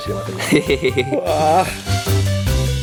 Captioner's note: moans